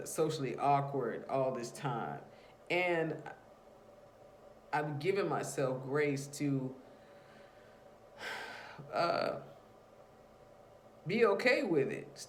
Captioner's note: sigh